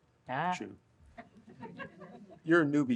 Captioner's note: audience laughs